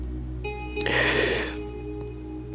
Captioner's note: Inhales